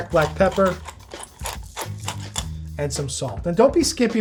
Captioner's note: pepper mill grinding